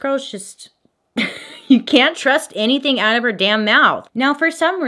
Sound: giggles

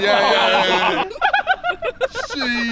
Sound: chuckling; laughs

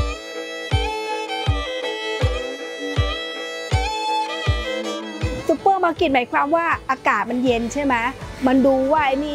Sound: speaking Thai

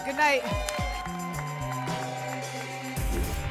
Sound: applause and cheering cont; whoosh

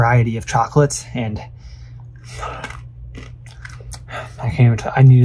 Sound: lips smacking

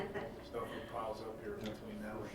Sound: laughing

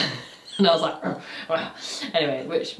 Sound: grumbling

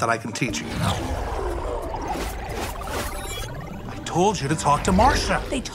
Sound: graphics warbling

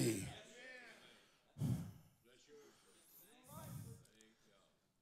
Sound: congregation murmurs

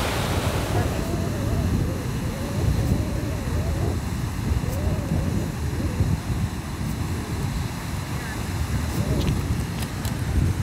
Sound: sound of breeze whistling

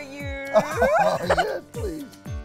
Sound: laughs

